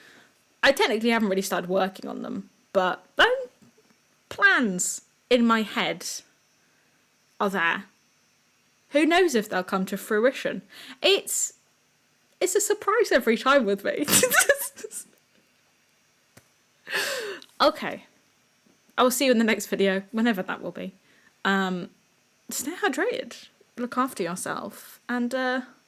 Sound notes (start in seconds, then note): 14.1 laugh